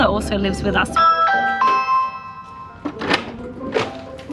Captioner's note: doorbell ringing